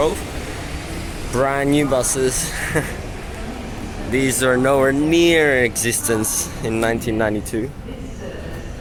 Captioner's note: laughs